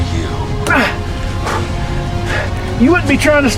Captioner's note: Hawk groans